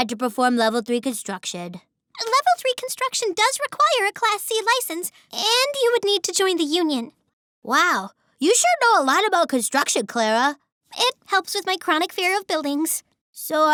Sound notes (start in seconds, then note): none